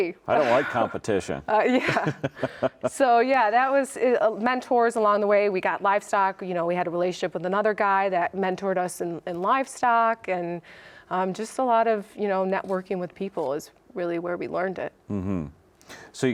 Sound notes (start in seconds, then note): 1.6 laughs